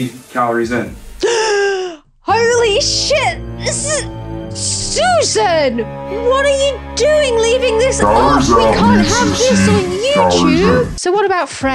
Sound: gasp

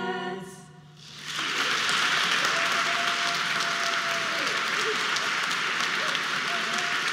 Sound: audience applause

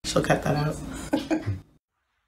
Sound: laugh

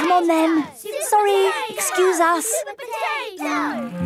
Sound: children chanting

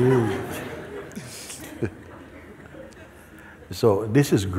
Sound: laughter

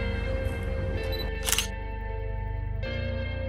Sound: camera clicks

